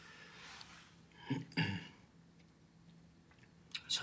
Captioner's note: clears throat